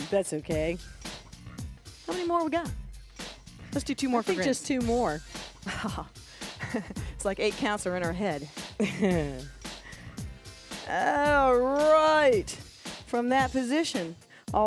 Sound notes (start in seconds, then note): 6.5 laughs; 8.8 chuckles